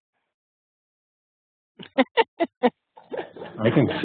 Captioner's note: laughs